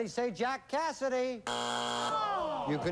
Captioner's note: buzzer